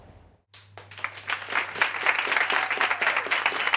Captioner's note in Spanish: Aplausos